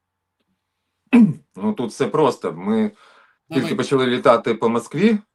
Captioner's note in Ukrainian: прочищення горла